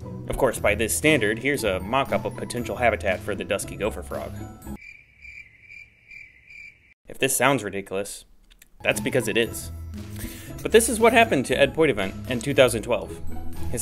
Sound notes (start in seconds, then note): 4.8 crickets chirping